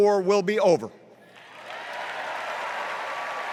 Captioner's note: cheers and applause